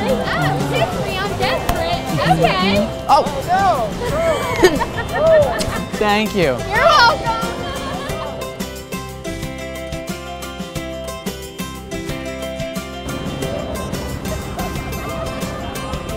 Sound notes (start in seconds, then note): 4.1 laughter, kissing; 8.7 cheerful music